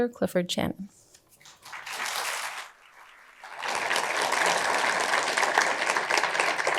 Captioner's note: applause